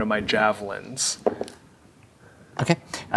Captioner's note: dice rolling